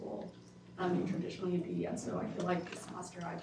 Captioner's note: speaks faintly